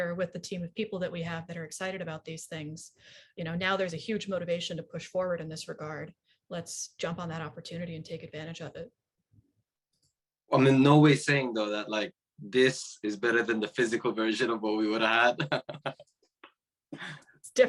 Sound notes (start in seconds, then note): 15.1 laughing